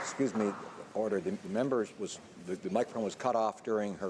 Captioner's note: some Applause